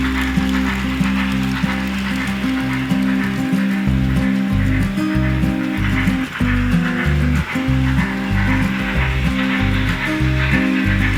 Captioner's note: sound of Locomotive and Music